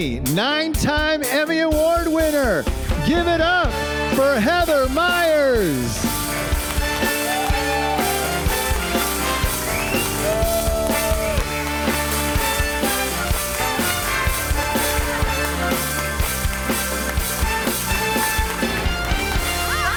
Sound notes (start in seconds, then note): 6.0 audience applauds; 6.9 upbeat music; 17.4 upbeat music continues